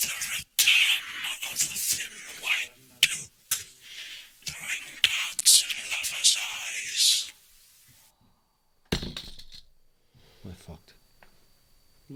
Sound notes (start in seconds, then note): 8.9 thud sound